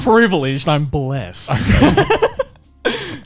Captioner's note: laughing